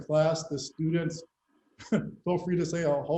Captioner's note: laughter